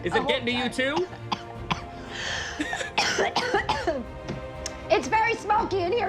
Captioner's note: coughing